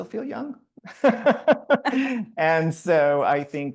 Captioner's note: laughing; panelists laughing